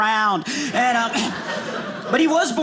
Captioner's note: audience laughing